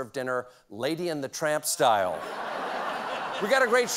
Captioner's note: laughter